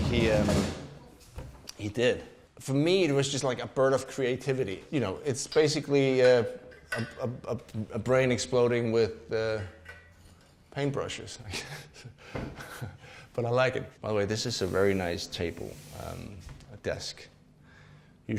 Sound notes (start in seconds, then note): 11.4 laughs